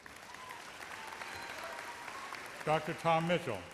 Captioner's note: audience applauds